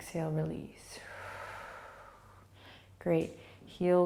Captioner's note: exhaling